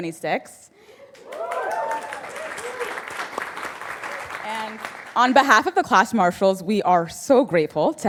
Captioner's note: applause